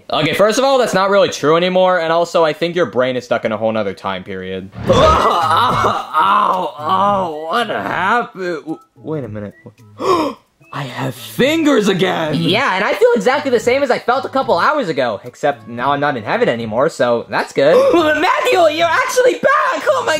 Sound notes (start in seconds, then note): 4.8 groaning; 9.9 gasping